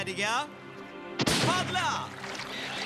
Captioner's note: gunshot